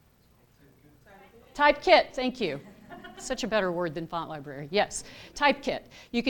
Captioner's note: laughter